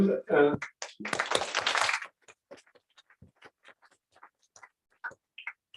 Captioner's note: applause